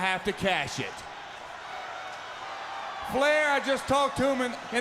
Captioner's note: crowd chatter